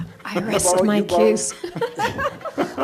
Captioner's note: laughs